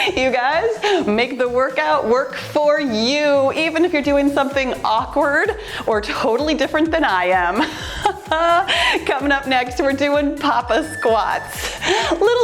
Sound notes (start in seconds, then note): 7.6 laughs; 10.5 timer beeps